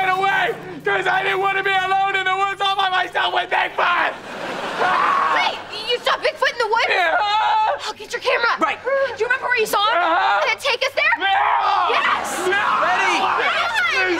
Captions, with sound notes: Cause I didn't want to be alone in the woods all by myself with Bigfoot! [screaming] Wait, you saw Bigfoot in the woods? - Yeah. - Get your camera. Do you remember where you saw him? -Uh-huh. - Take us there? - No! - Yes. - No! - Yes!